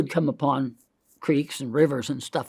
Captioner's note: hand scratches